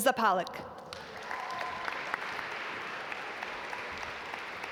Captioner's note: audience applaud